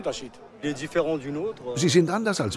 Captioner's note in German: Er spricht französisch